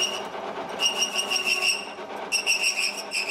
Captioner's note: high-pitched squeaking